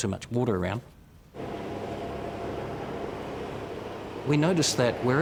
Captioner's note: airboard whirring